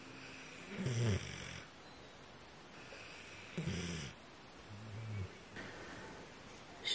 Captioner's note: Banjin snoring; 半斤的呼噜声